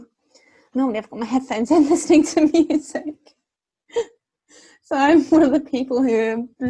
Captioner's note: laughing